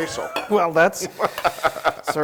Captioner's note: laugh